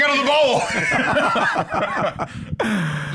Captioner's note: laugh